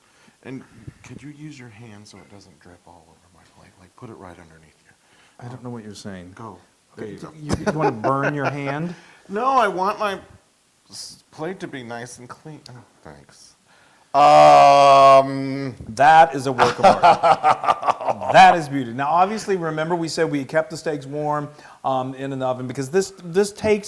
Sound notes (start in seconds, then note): 7.3 laugh; 16.5 laugh